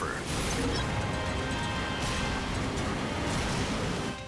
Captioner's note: waves crashing